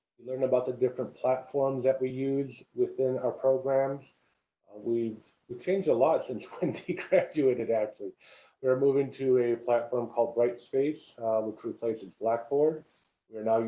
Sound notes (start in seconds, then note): 6.4 laugh